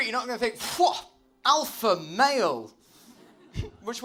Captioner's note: laughter